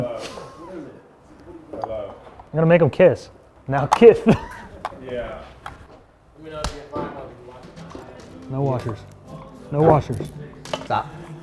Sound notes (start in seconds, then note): 3.9 laughing; 4.5 metal clinking; 7.0 upbeat country music